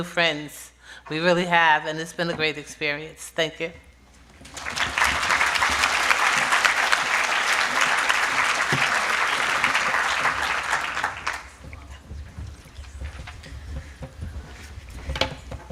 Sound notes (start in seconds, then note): 4.4 applause